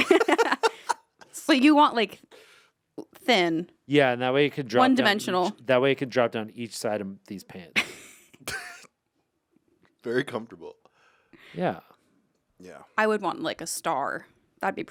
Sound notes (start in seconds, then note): 0.0 laugh; 7.9 laugh